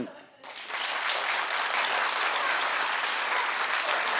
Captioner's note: audience clapping